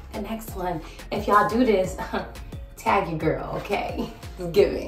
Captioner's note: chuckles